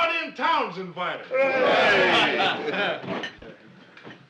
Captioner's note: cheering, laughing